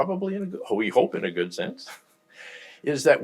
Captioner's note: laughs